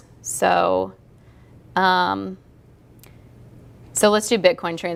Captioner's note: pause